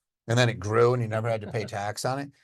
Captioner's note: cohost laughing